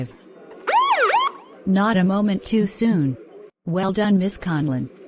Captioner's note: police siren